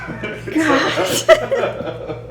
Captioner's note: gasp